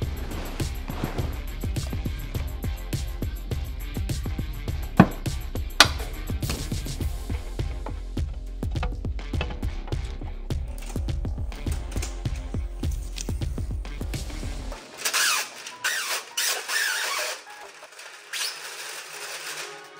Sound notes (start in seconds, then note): 5.7 stand clicks; 14.7 plastic squeaking